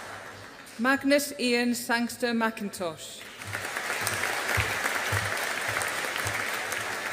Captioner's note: audience applauding